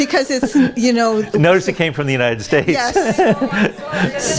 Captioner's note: laughs